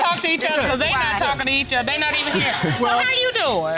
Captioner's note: chuckles